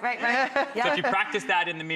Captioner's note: laughing